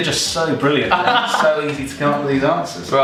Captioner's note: laughing